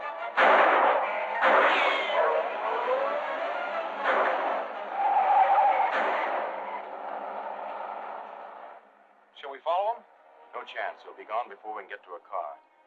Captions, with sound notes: [gunshots] [tires screeching] Shall we follow 'em? No chance. They'll be gone before we can get to a car.